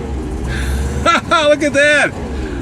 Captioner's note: laughs